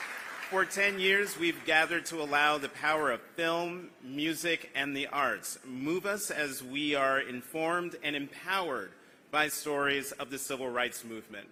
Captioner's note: applause